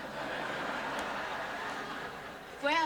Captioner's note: laughter